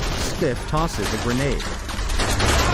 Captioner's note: bullets ricocheting off metal